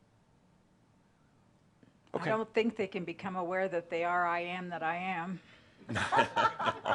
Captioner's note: laughter